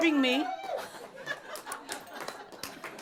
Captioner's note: more chuckles